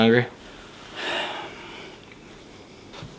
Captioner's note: sighs